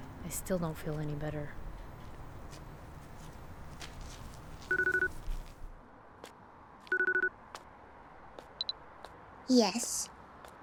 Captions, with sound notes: I still don't feel any better. (cell phone ringing) (earpiece beeps) Yes?